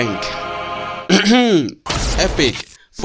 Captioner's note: clears his handsome throat